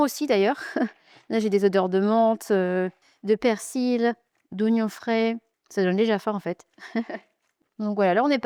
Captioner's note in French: rires